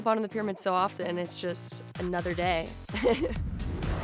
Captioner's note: laughs